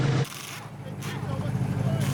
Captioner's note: tools whirring